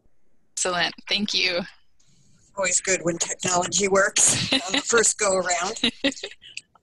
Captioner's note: laughter